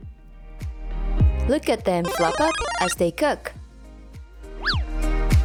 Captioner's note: SMB, flower power sound effect